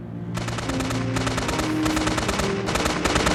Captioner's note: gun firing